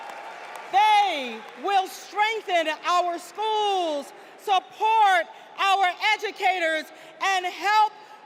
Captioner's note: applause